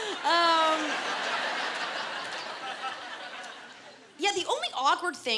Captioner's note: laughter